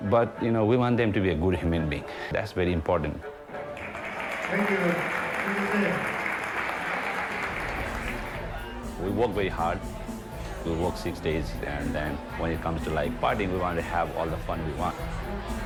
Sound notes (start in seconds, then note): 1.7 slow music; 3.4 audience applauds